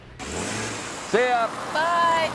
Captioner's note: vehicle accelerating